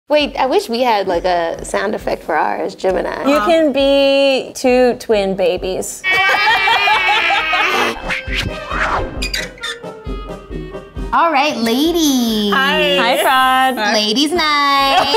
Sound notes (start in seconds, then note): 6.0 imitates crying; 7.6 upbeat music